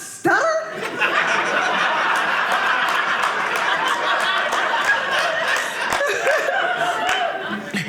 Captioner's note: audience laughing